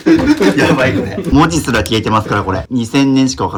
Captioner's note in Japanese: 笑い